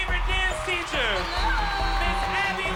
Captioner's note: crowd cheering